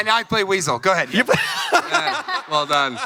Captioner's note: laughs